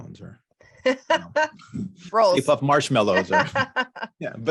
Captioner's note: chuckles